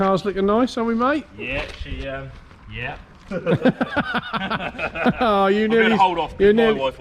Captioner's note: laughter